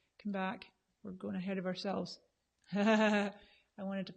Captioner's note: laughs